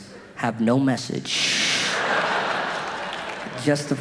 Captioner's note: audience laughing